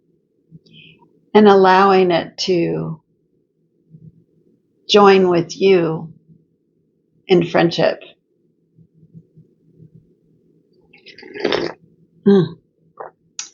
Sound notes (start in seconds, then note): 6.4 slurp